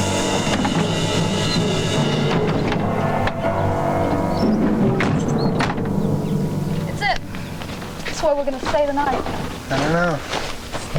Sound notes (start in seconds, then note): 1.6 birds chirping; 4.4 car doors thudding; 6.0 birds chirping